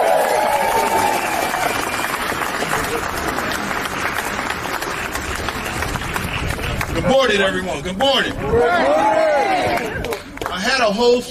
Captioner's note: applause